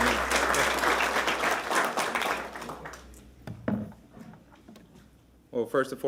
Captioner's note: applause